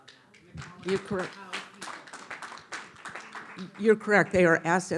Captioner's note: audience applauding